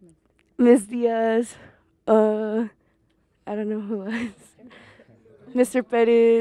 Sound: laughs

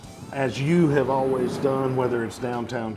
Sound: train wooshes

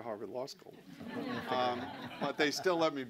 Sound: laughter

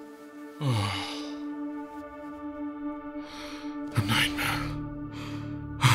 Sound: breathing heavily

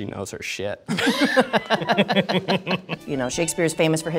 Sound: all laughing

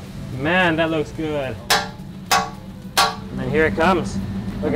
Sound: knife pounding

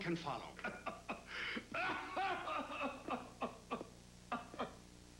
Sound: hacking ug

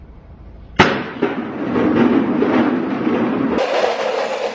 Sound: cups crashing

